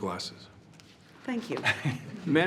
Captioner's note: laughs